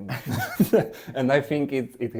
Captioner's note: laughs